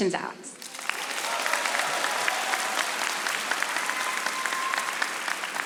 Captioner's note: audience applauding